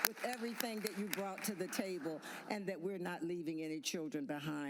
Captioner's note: applause